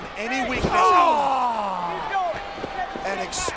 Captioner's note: Undertaker groans